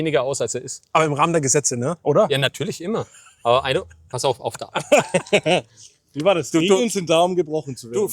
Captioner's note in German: gelächter